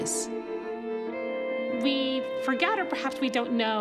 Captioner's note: none